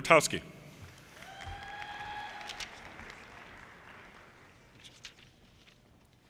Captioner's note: audience cheers and applause